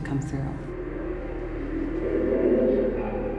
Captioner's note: low humming